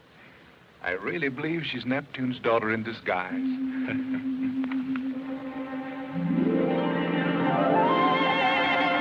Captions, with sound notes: I really believe she's Neptune's daughter in disguise. [chuckling]